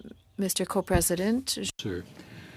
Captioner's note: speaking French